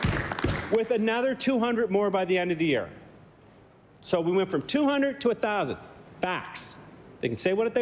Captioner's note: applause